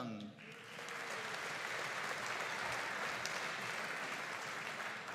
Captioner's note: audience applauding